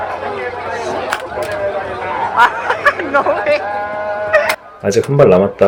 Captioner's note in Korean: 웃음ㅋㅋ